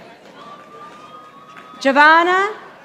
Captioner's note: audience applauding